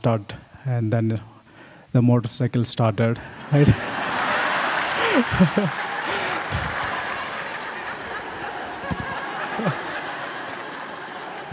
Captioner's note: laughter